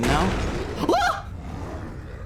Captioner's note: crash; monster growling; monster roar; yelps